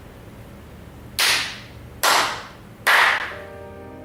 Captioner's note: appreciative clap